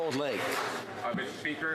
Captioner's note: some Applause